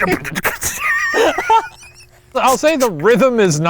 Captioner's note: laughing